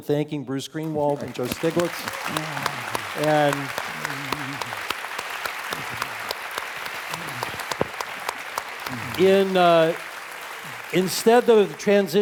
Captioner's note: applause